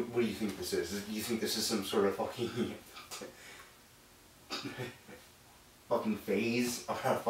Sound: stutters

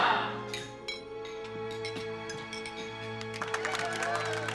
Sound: glasses clinking; applauding and cheering

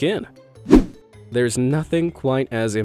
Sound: image whooshing

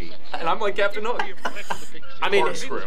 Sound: both laugh

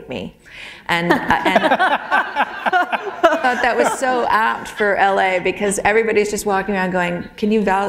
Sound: laughter

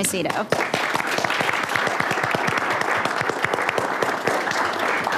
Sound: audience applauding

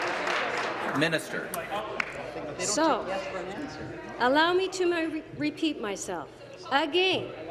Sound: some Applause; applause; some Applause

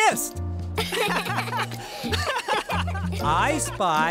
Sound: laughing

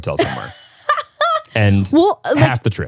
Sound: laughing

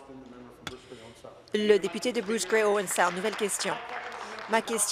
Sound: applause

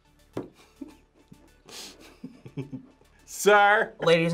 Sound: laughs

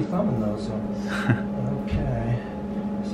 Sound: chuckling

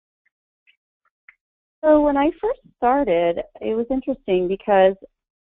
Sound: voiceover

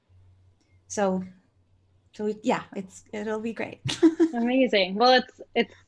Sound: laughs

